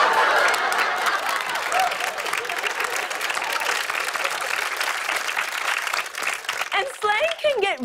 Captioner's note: laughter; cheers and applause